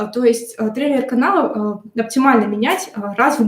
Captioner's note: none